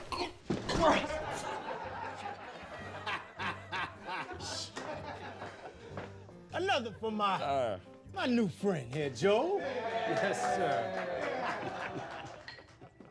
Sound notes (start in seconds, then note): 0.8 laughter; 11.4 applause, laughter